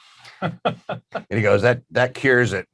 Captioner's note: laughing